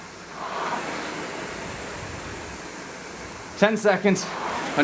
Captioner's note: rowing machine whirring